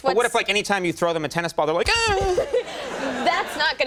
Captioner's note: whines